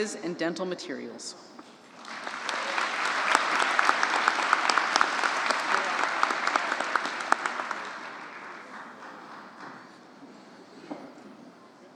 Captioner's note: applause